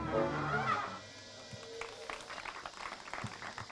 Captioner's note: applause